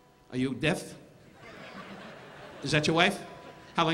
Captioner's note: audience laughing